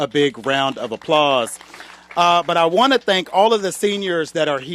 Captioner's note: applause